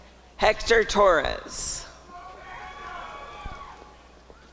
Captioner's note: applause and cheering